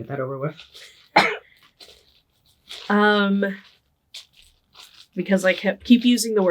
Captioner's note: coughing